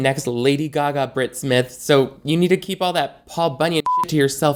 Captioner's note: beep